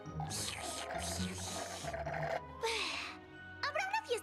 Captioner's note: slurp